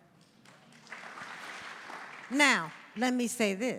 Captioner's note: audience applauding